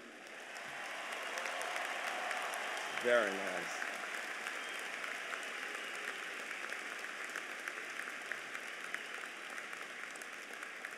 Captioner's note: applause